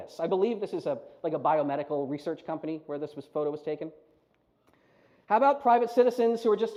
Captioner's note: none